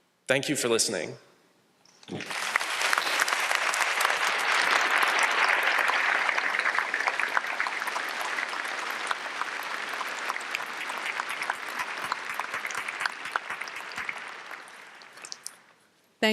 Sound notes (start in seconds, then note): 2.0 applause